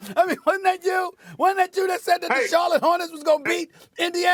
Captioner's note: laughter